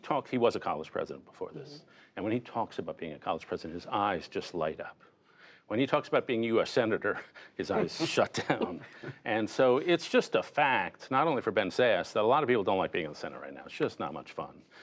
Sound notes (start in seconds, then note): 7.8 laughter